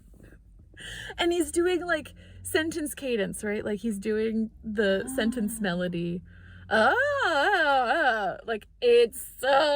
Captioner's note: demonstartes baby noises